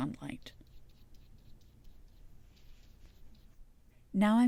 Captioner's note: softer susurration brush strokes